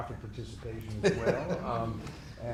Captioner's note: laughing